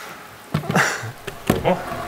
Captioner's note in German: Er lacht leise